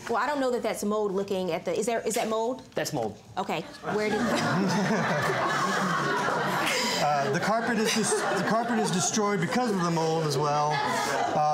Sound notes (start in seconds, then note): 3.8 laughter